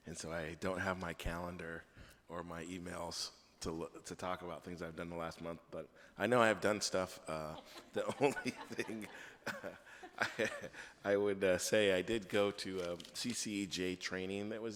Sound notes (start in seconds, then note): 7.3 board members laugh; 10.5 laughs